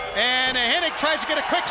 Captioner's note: bell ringing